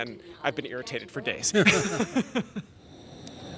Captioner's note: both laughing